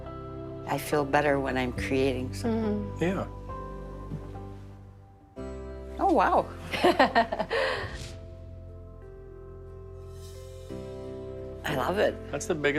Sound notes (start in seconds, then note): 4.0 light music; 6.7 Dr. Zasio laughs